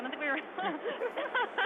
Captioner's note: laughs